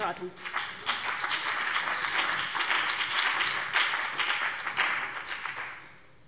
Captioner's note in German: Beifall CDU und BÜNDNIS 90/DIE GRÜNEN